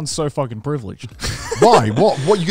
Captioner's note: laughs